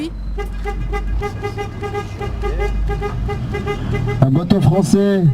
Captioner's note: bruit de klaxonne